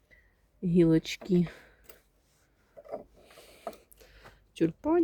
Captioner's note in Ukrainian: сопіння